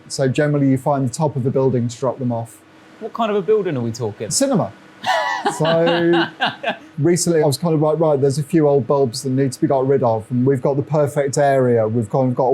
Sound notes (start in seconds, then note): 5.0 laughs